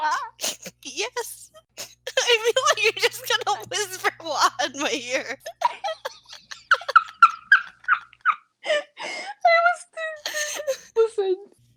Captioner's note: squeaky laugher